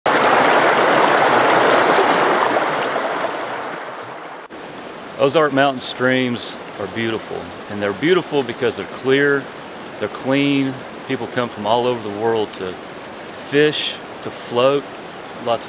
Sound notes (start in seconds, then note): 0.1 flowing water pattering; 2.1 flowing water bubbling